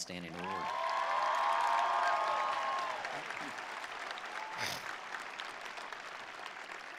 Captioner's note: attendees cheering; attendees applauding